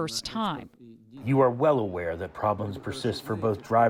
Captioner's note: through translator